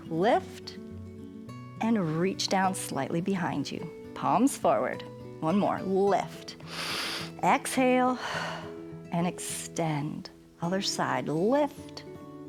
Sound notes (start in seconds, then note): 6.6 inhales